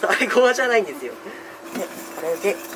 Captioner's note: laughter